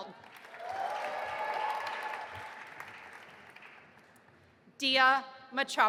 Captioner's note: audience applauding and cheering